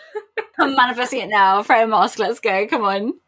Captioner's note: laughing